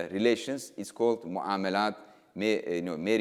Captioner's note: speaking in foreign language